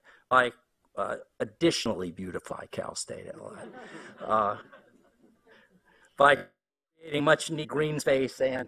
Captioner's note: laughter